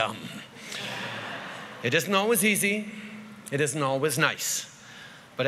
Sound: laughter

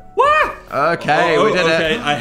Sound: shouts

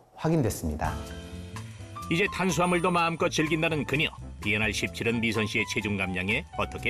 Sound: voiceover

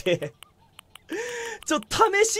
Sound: inhales

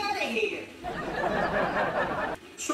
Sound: audience laughing

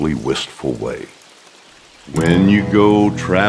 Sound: rainfall

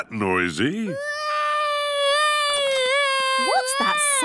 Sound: baby wailing

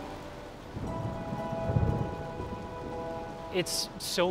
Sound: thunder rumbling

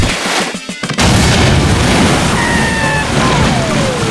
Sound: splashing; water crashing; screaming

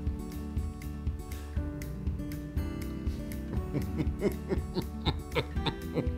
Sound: laugh

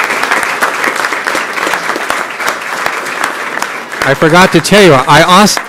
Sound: applause

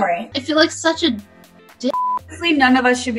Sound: beep

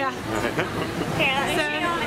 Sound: laughter

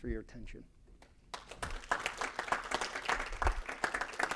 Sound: applause

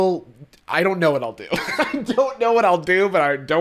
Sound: laughs

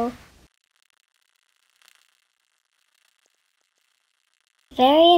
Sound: silence

